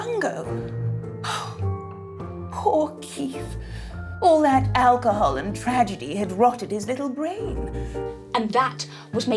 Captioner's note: melodramatic sigh